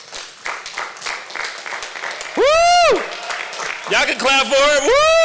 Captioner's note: applause